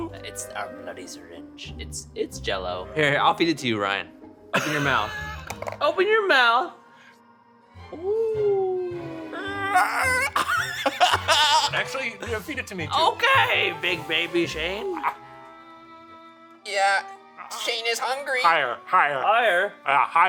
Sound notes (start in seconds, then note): 7.9 ghostly wailing; 9.6 laughing